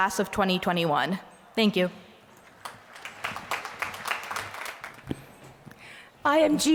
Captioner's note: applause